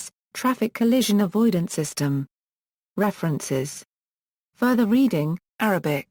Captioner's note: Arabic